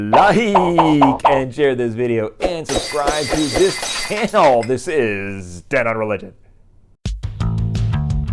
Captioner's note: popping sounds; glass breaking